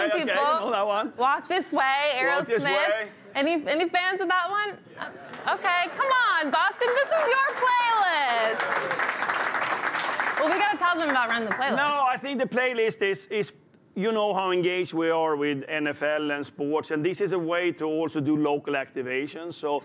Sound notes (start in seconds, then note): 6.8 applause